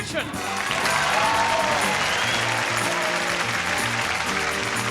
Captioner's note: audience applauding